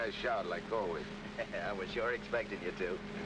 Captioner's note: laughs